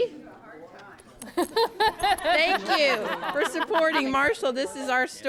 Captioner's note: �laughing�